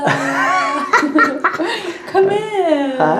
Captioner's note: laughs